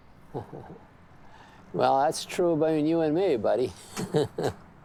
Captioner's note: laughs